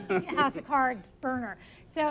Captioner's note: laughs